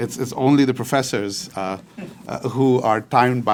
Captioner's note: audience chuckling